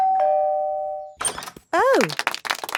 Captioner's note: doorbell ringing; crowd applauding